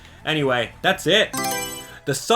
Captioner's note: Mario Selection Sound